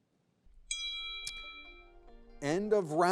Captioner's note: gentle music; bell ringing